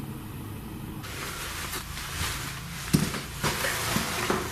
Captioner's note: shuffling sounds